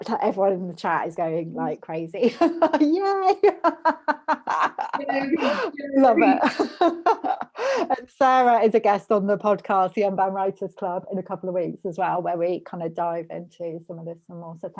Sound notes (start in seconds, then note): 3.5 laughs; 5.3 cheering